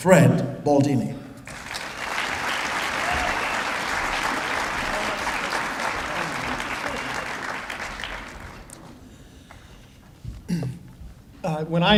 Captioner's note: applause